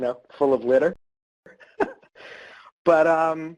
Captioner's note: laughs